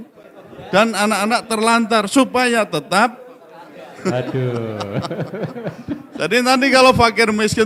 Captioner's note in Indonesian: tertawa